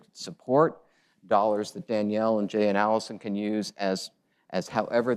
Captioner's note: none